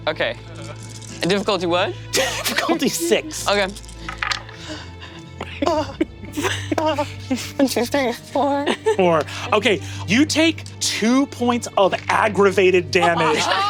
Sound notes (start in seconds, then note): 3.6 dice clicking; 5.4 Lou chuckling